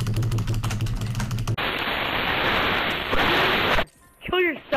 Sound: tornado sounds

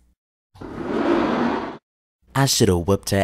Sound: door opens

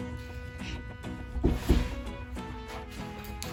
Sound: knock knock

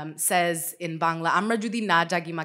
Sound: speaking Bangla

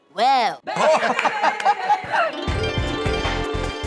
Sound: laughs

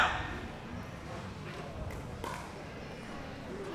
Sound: chattering

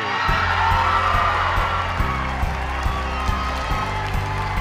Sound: applause

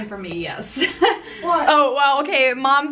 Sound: laughs

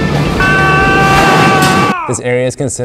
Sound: man screaming

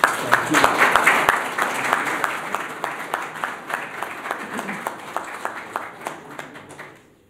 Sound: applause

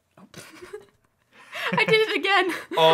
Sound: laughing

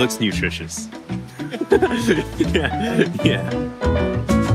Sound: laughs

